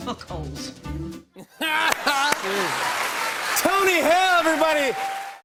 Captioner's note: laughter